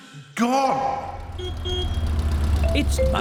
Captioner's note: horn honks